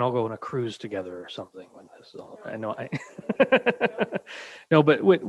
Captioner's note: chuckles